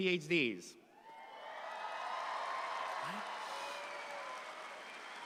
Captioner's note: audience applauds